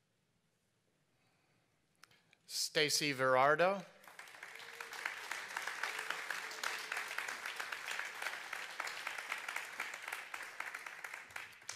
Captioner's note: applause